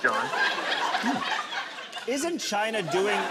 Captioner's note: laughing continues